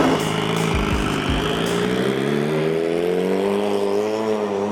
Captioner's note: car engine roaring